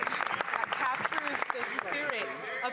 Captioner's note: some Applause